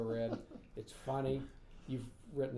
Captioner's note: laughing